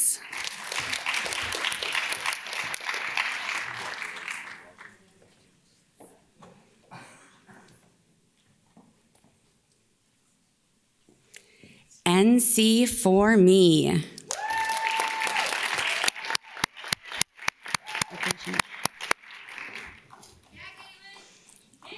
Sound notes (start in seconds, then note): 0.0 audience claps; 14.2 audience cheers and claps